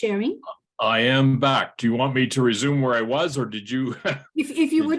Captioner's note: laughs